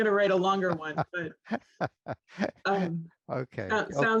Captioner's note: laughs